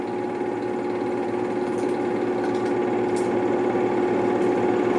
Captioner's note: projector sounds